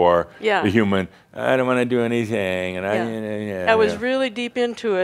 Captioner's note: whiny voice